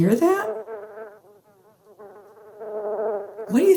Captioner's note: buzzing continues